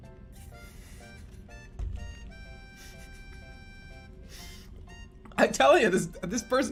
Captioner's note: holding out laugh